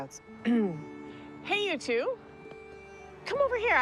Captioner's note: clearing throat